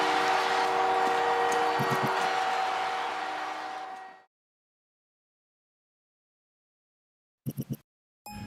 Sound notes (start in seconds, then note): 0.0 crowd cheering